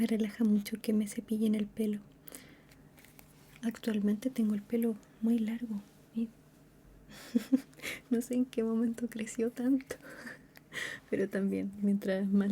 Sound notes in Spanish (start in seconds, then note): 7.1 risas